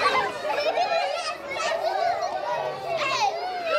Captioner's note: loud children's laughter